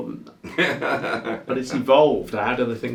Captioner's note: laughing